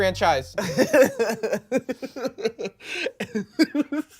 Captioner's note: laughs